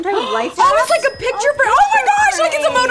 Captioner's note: register ringing